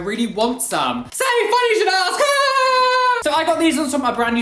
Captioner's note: laugh